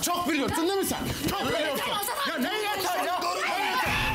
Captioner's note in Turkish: kavga sesleri̇